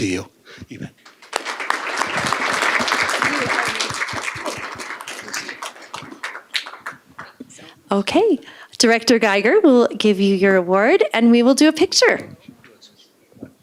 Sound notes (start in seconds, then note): 4.2 applause